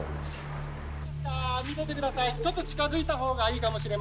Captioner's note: CPR Instructor in Japanese